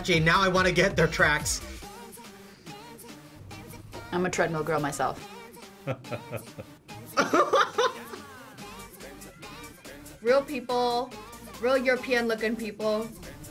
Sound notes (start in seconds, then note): 5.7 laughs; 5.7 chuckles